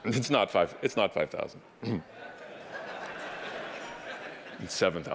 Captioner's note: audience laughing